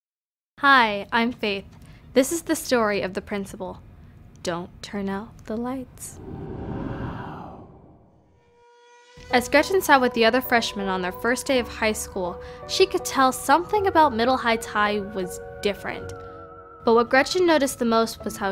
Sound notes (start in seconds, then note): 5.9 wind whooshing